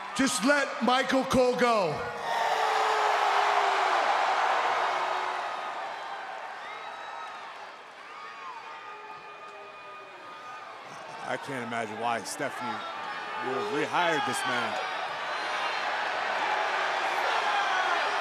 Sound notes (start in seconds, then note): 2.4 Braun yelling; 3.9 crowd cheering; 15.1 crowd cheering